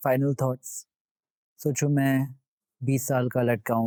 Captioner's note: speaking in Hindi